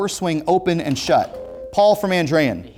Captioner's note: ringing